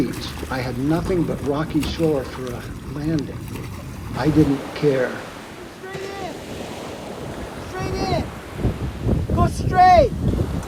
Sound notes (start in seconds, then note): 5.4 shouts